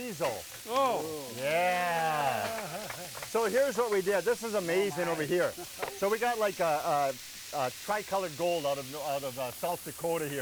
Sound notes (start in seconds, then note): 2.0 audience clapping